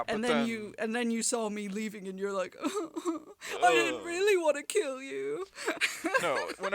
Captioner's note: crying